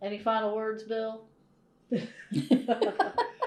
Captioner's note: laughter